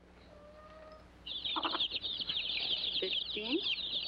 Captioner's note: chicks chirping